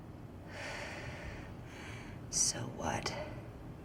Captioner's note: exhales